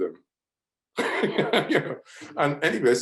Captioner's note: laughs